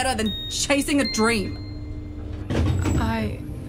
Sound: the lift BLEEPS

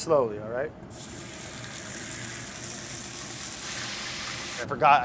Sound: pan sizzling

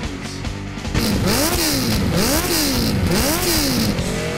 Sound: engine revving

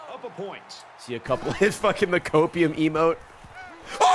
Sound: laughs

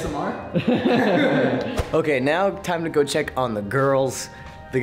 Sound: laugh

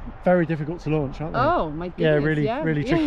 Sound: laughing

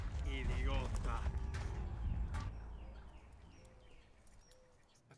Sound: speaking in Spanish

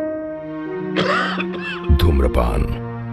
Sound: coughing

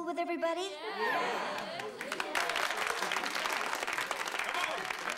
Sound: murmurs of agreement

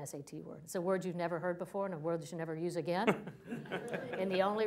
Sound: laughter

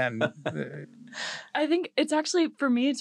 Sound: laugh

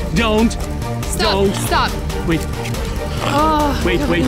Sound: sigh

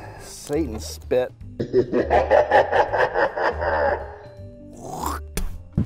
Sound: evil laughter

